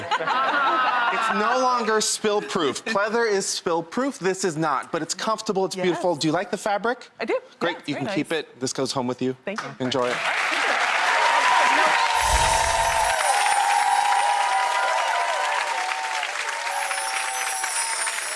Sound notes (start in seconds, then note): 12.6 cheering and applause; 14.2 chimes